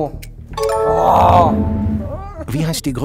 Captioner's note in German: Stöhnen